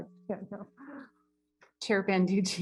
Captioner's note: laughs